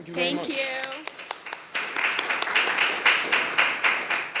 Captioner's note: clapping